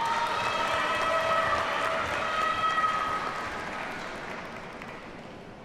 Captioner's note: audience cheers and applauds